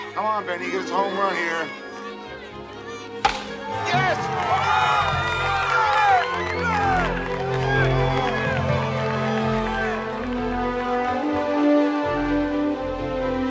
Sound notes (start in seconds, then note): 3.2 crack; 8.8 crowd cheering